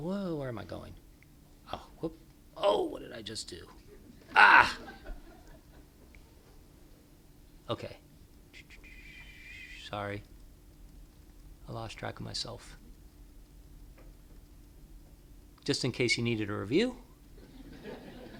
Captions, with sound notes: >>> SO, I WILL SKIP AHEAD, AND JUST SAY, OBSERVING, OKAY, YEAH. WOE, WHERE AM I GOING? WHAT DID I JUST DO? [LAUGHTER]